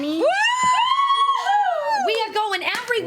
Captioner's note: cheering